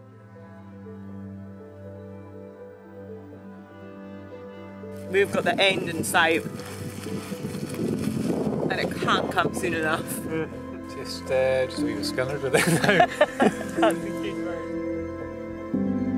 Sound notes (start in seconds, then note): 11.6 speaks foreign language; 12.5 laughs